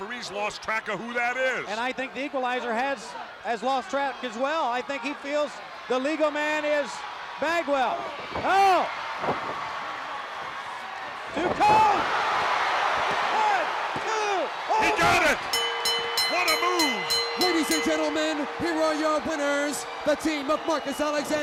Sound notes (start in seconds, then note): 10.4 crowd cheering; 15.4 bell ringing